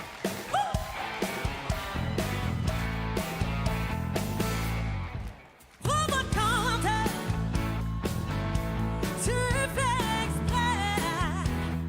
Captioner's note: applause